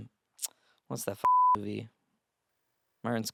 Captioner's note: beep